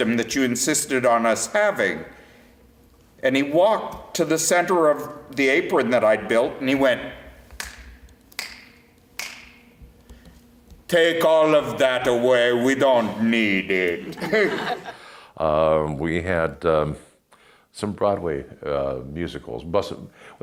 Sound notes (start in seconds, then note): 9.1 snaps fingers